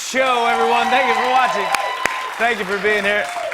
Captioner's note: cheers and applause